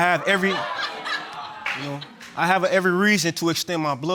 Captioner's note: audience laughs